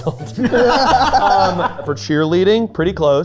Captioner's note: group laughing